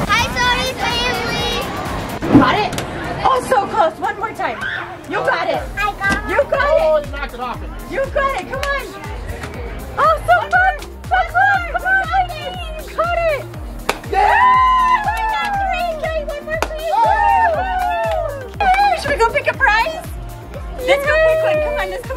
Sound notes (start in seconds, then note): 13.7 balloon pops; 14.1 cheering; 17.0 balloon pops